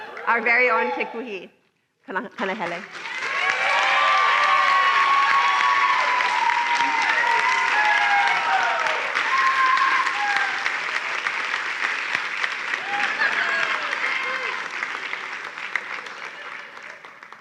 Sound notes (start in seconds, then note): 2.6 applause and cheering